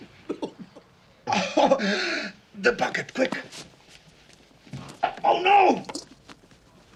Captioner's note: laughs